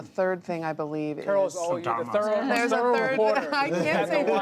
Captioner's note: laughter; laughs